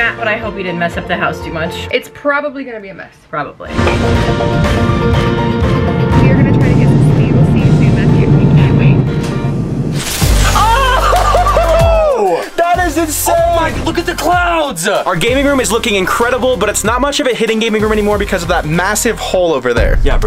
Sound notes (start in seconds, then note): 10.5 laughing